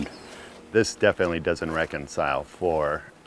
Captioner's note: pat